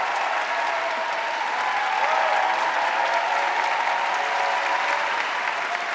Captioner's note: audience cheering and applauding